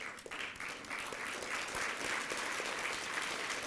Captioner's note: applause